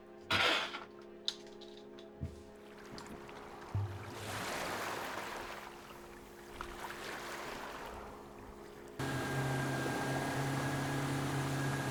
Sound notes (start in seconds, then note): 2.5 water splashing; 9.0 motor whirring